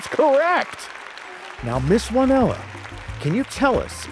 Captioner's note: audience applauding